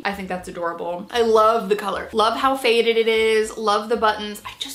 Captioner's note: none